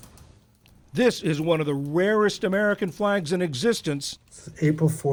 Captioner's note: voice-over